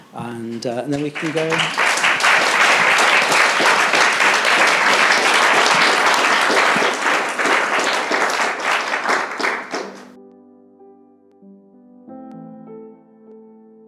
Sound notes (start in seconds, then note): 0.9 participants clapping; 10.6 gentle music